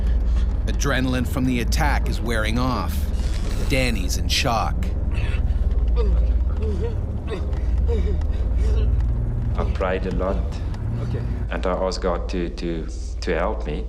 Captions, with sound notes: - [Voiceover] Adrenaline from the attack is wearing off. Danie's in shock. - I prayed a lot. And I asked God to help me.